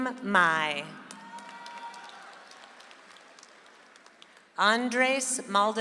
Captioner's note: audience applauds